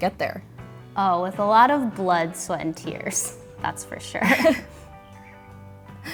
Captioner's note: both laugh